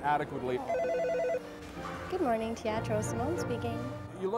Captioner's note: phone rings